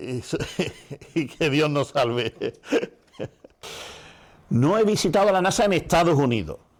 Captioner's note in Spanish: risas